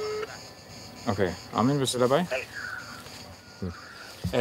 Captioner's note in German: Freizeichen